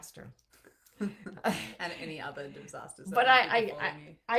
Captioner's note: chuckles; murmurs